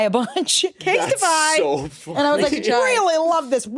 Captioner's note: laughs